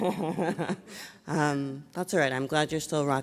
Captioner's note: chuckles